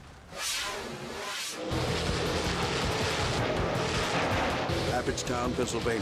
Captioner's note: engines revving; exciting music